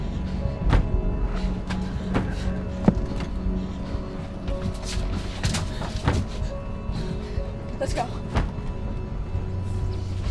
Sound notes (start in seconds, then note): 0.6 slam